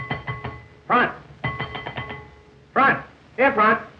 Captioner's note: bell ringing